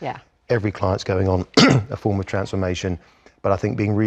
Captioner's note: cough